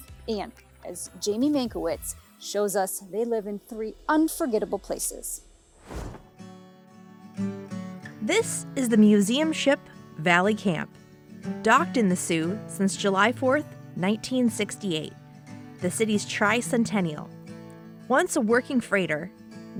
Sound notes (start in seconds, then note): 5.5 tranquil music; 5.7 screen whooshing